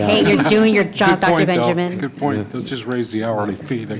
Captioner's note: laughter